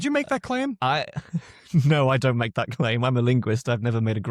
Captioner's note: chuckles